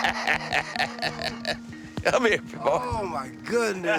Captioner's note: laugh